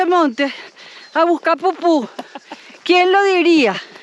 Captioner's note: laugh